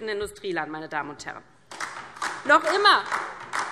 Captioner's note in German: Beifall DIE LINKE